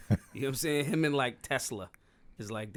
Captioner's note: laughing